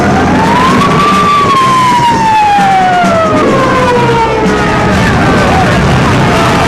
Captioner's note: dramatic music; worshipers yelling; dramatic music; sirens blaring